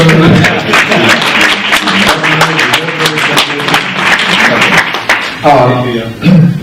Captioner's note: clapping